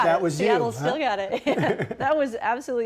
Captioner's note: laughter